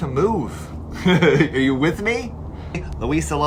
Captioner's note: laughs